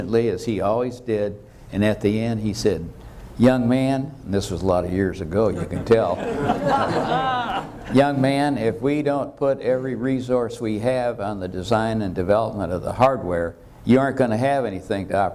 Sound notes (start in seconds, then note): 5.6 audience laughter